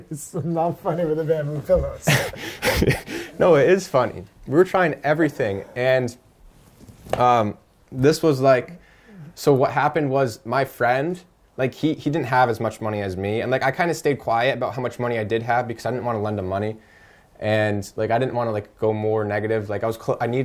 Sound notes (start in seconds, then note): 0.1 chuckles